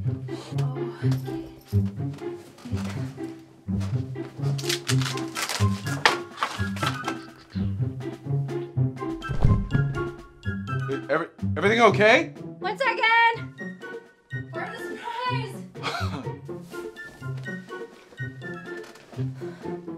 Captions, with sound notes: Oh-Okay. [Boom from above] Every-everything okay? One second!